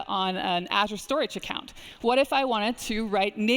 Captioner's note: none